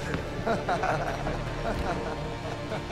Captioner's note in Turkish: Gülme sesleri